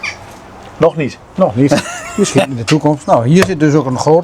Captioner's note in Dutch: gelach